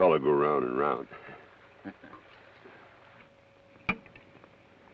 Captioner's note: Joshua chuckles